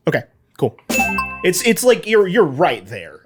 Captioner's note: bell dings